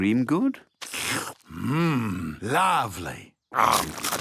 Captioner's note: slurps